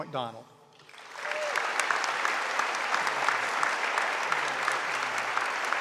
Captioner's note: audience applauding